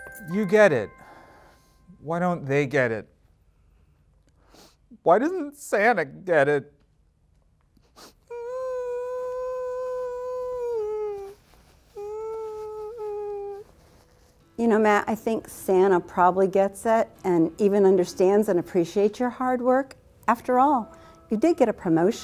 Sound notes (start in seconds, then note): 0.0 bells jangle; 6.7 sobs